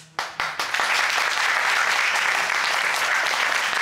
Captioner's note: audience applauding